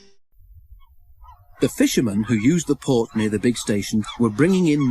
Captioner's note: seagulls cawing